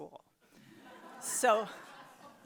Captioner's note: audience laughs